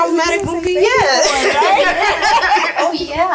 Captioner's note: laughing